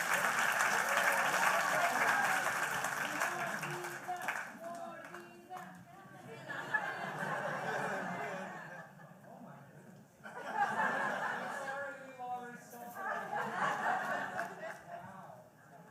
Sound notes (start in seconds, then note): 0.0 applause; 3.7 laughter